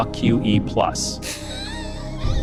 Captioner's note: laughing